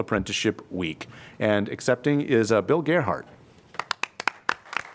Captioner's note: applause